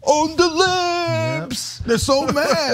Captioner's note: laugh